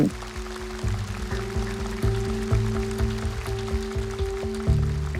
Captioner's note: audience clapping